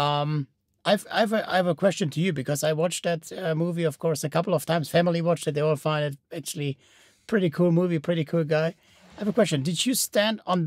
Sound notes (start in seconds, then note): none